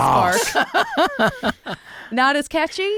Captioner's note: laughing